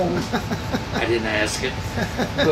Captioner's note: laughing